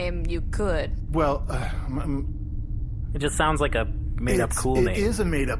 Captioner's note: stutters uncomfortably